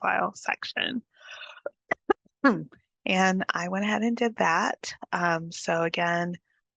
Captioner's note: clears throat